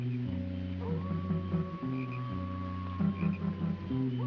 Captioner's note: coyote howling